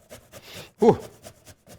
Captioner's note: sniffs